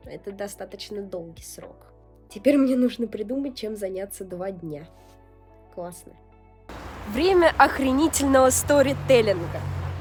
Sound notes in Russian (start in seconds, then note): none